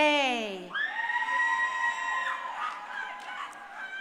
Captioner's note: crowd cheering